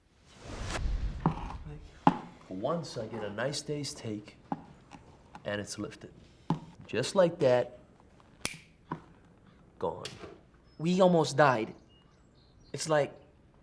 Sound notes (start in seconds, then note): 0.1 whooshing sound; 8.4 snaps his fingers